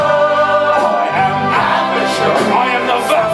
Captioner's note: echo